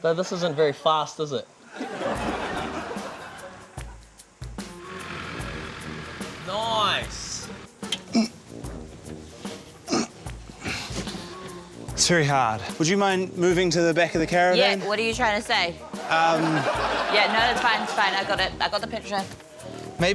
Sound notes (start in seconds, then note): 3.6 quirky music; 8.1 grunts; 9.8 grunts